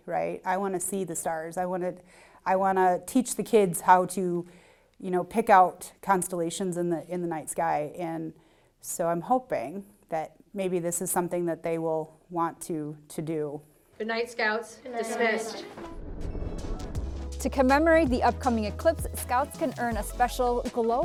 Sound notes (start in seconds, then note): 15.6 transition whooshes